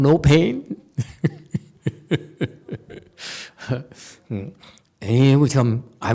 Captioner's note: laughs